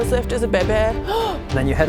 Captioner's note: gasp